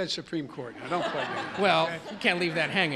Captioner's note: laughter